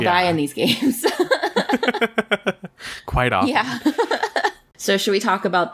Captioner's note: laughs